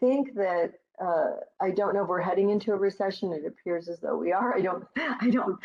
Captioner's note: laughing